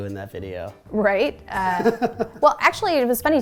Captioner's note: laughing